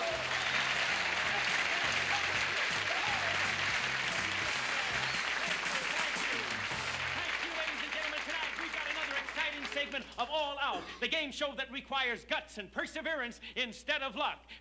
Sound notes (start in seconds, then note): 0.2 applause; 3.5 over applause